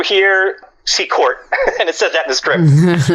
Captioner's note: laughs